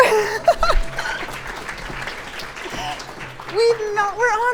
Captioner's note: clapping